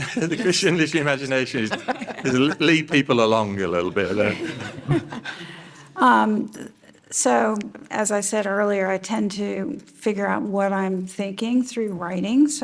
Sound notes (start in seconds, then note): 4.1 panel chuckles